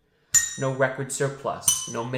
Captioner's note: bell dings